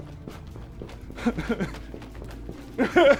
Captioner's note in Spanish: Llorando; Llanto más fuerte hasta toser